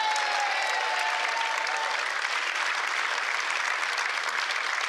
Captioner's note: applause